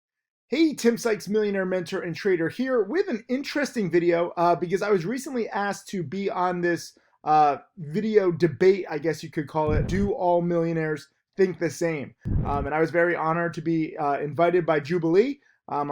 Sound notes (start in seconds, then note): 9.7 air whooshes; 12.2 air whooshes